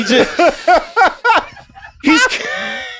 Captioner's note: laugh; laughs